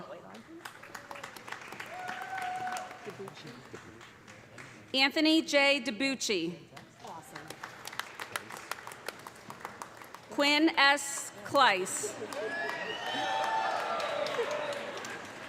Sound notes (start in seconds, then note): 0.2 applause; 6.7 applause; 12.0 cheers and applause